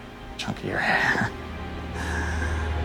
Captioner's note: chcukles